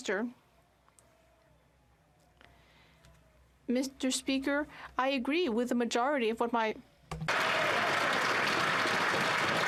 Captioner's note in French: applaudissements